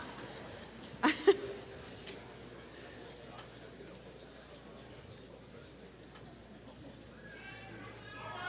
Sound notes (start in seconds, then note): 1.0 laughs